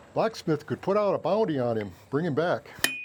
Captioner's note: hammering